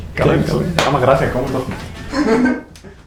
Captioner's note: laughs